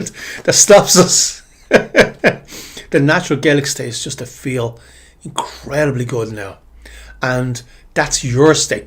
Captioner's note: laughter